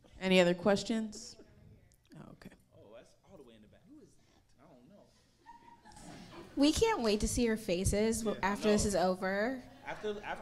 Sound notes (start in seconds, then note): 5.4 audience laughing